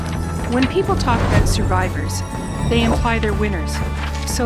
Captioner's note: sound of paper flapping in wind; sound of paper flapping in wind